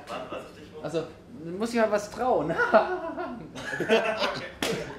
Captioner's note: high-pitch laugh